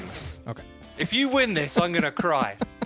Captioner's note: laughs